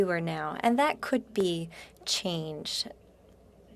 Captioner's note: speaking French